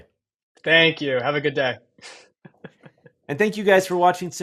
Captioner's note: chuckles